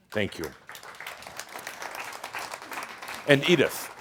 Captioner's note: audience applause